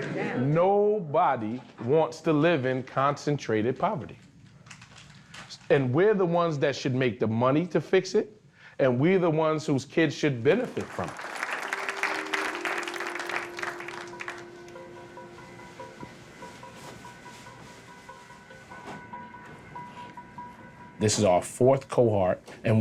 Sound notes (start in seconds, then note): 10.6 audience clapping; 15.0 playful tender music